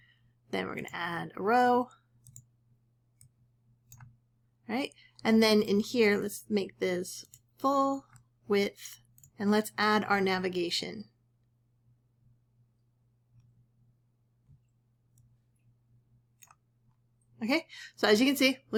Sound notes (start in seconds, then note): 11.1 silence